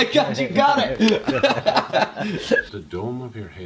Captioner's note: laughter